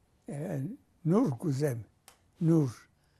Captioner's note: non-english